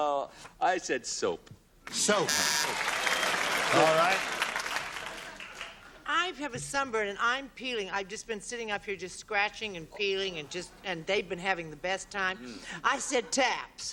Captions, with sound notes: - I said soap. - Soap. [buzzer] All right. - I have a sunburn and I'm peeling. I've just been sitting up here just scratching and peeling and just-- and they've been having the best time. I said taps.